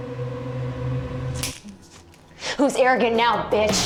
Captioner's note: tense music; electric collar snaps